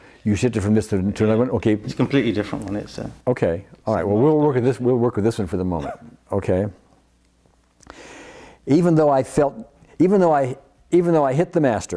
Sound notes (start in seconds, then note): 5.8 laughs